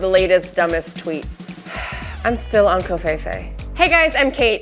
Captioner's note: sighs